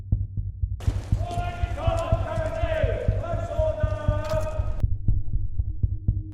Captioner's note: officials shouting in unison